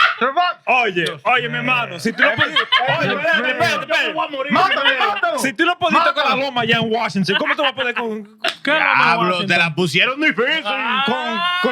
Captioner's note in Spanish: Hablando en idioma extranjero